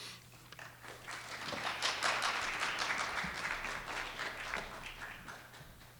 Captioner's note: audience applauding